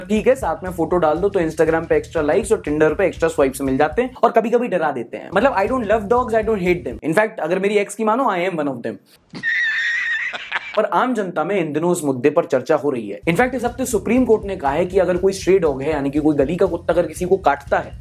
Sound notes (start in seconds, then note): 9.3 laughter